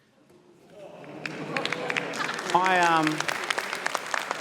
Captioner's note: applause